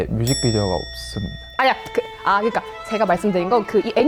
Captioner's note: panicking